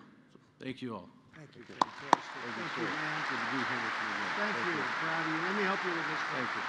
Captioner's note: applause